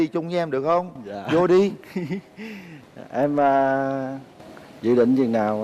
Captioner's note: laughing